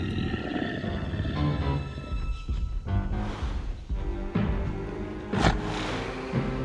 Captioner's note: Scarface growls; dramatic music; heavy foot steps; Scarface sniffs and growls